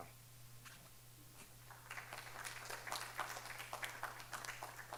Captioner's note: audience applauding